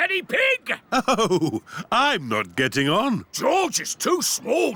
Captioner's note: chuckling